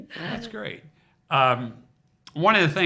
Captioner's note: chuckles